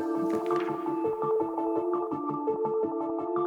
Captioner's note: page flipping